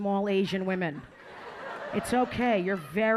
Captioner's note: audience laughing